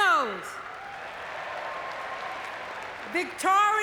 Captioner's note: audience cheering